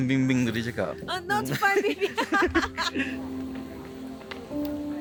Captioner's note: laugh